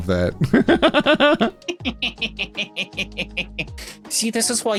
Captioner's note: laughing